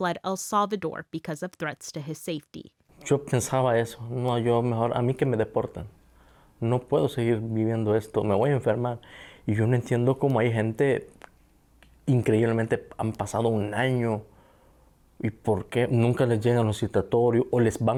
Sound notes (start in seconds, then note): 3.3 speaks Spanish